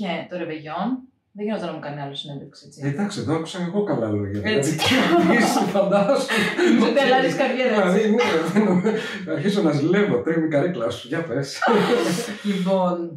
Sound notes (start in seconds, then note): 7.3 laughs